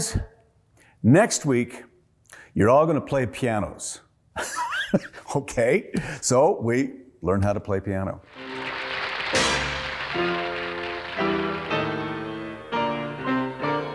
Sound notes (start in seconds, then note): 4.0 laughs